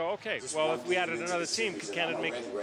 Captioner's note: yelling